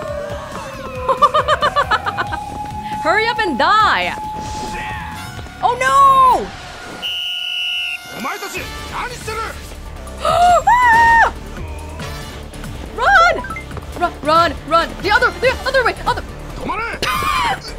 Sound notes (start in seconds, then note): 0.8 laughs; 10.2 gasps and shouts; 16.2 scoffs